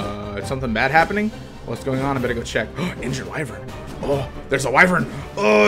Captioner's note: reads quests, gasps